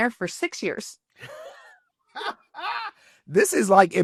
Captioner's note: laughter